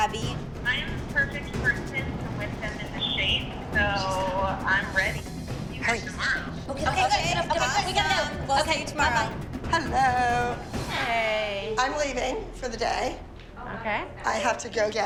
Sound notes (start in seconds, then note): 3.6 whispering